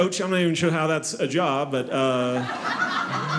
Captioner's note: audience laughing